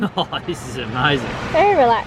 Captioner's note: chuckles